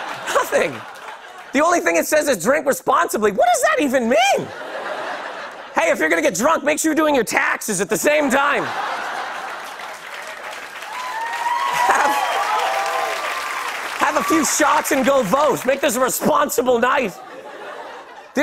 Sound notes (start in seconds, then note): 4.6 light laughter; 8.2 laughter; 11.3 cheers and applause